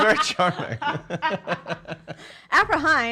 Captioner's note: laughing